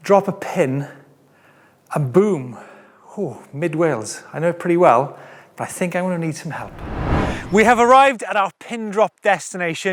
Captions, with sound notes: drop a pin, and boom. Ooh, Mid Wales. I know it pretty well, but I think I'm gonna need some help. (whooshes) We have arrived at our pin-drop destination